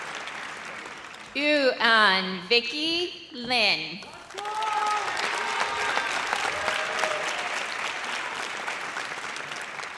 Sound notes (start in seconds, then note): 4.2 audience cheers